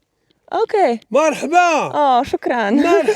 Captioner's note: man speaks Arabic